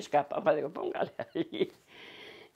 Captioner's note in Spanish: Ríe